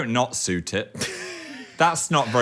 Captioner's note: Dan laughing